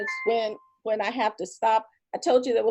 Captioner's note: chime